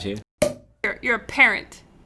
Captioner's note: cork popping